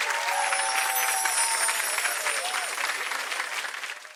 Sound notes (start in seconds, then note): 0.0 bells tinkling